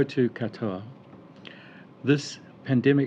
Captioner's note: speaking foreign language